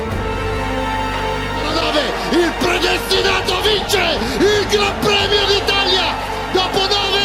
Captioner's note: applause